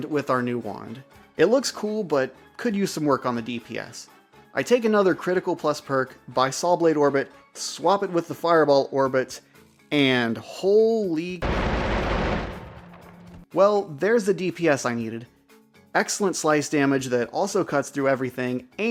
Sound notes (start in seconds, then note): 11.4 rapid fire